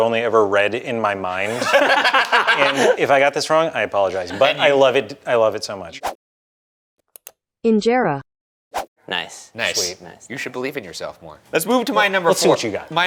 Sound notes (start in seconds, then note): 1.4 laughing; 6.0 graphic whooshing; 7.0 mouse clicking; 8.6 graphic whooshing